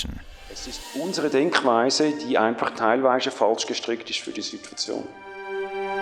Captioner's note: foreign Language